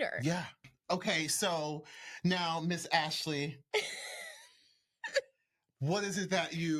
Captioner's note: giggling